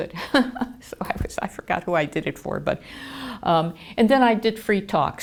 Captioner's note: laughter